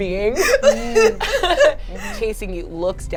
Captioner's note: laughs